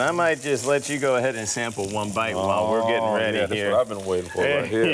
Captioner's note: chuckling